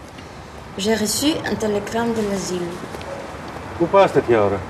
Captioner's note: in french